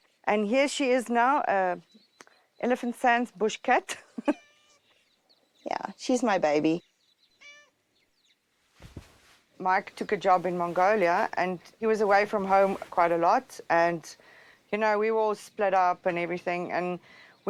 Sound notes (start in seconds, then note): 3.9 laughs